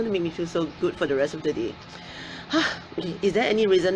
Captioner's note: sighs